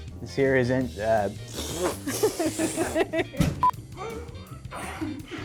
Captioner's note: blowing raspberry; grunting